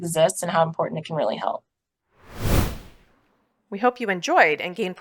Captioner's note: whoosh Sound